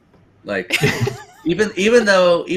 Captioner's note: laughter